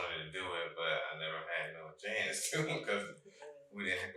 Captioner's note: chuckles